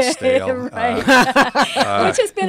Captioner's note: laugh